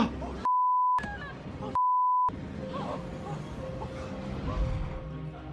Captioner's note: blade slicing; gasping; witness swearing and panting; train whooshing